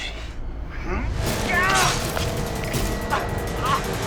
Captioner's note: groans